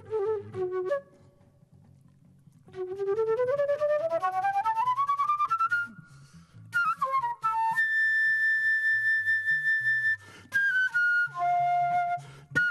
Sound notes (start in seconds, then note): none